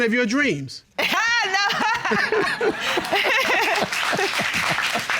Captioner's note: laughing; audience applauding